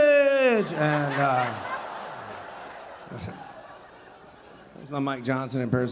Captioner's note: audience laughing